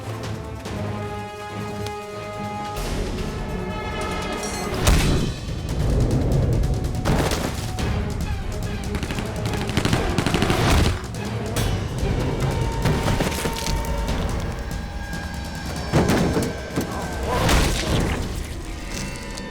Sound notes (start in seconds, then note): 8.8 gunfire